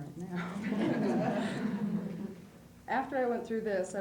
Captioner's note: laughter